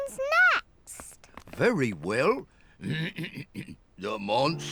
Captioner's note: clears throat